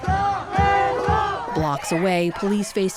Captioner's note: chanting